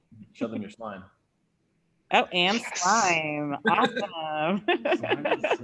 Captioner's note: laughs